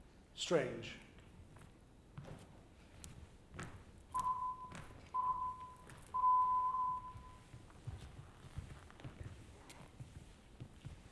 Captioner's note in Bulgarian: Звуков сигнал